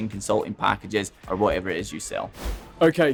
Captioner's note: abrupt swooshing